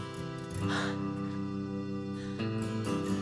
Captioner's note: chuckles